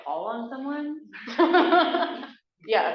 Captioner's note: laughs